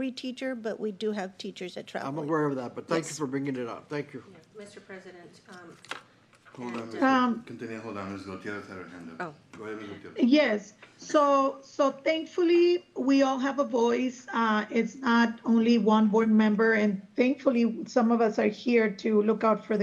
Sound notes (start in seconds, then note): 9.6 clears throat